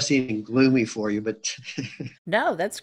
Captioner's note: giggles